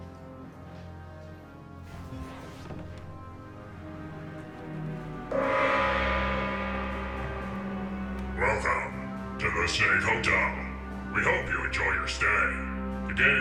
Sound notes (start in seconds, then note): 0.2 dramatic music; 5.5 gong banging